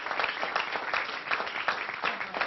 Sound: applause

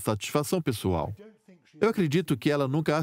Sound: voiceover

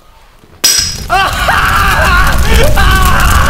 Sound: agonised screams

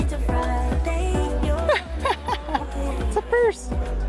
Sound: laughs

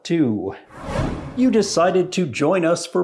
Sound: whooshing

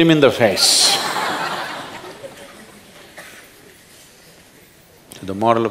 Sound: laughter

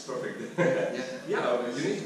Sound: laughs

